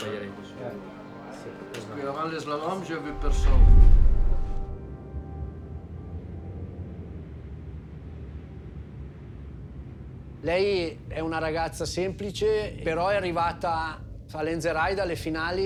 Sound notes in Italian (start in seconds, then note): 10.5 parla in italiano